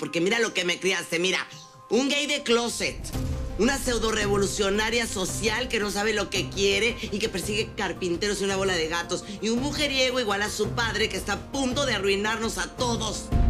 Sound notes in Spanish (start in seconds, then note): none